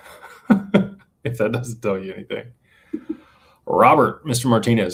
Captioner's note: laughter